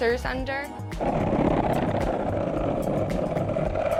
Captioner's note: wheels rolling